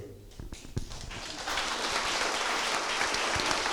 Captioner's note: applause